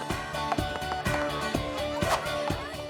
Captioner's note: popping loudly